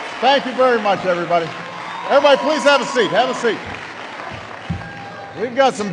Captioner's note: applause